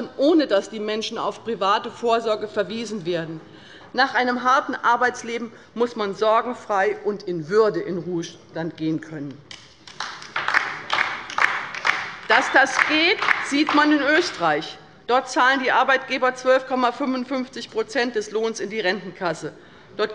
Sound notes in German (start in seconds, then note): 9.8 Beifall bei der LINKEN